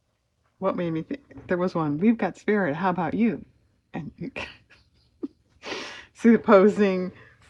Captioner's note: laughs